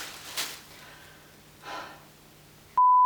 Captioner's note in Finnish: alistunut huokaus